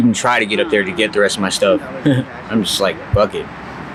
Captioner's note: chuckles